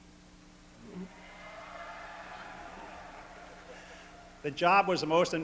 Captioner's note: cheering